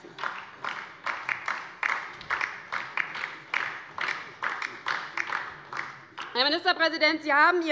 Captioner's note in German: Beifall DIE LINKE